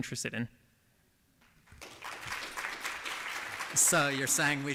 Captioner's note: applause